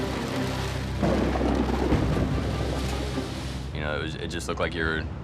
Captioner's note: thunder booming